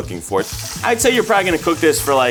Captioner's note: oil sizzles